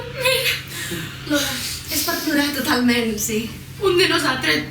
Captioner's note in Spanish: tono irónico